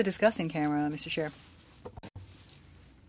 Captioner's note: speaking French